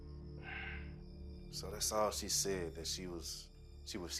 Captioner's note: sighs